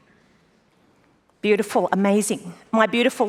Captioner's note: clicking wood